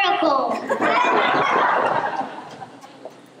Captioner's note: laughter